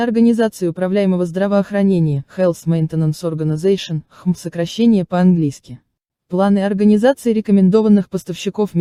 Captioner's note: in English only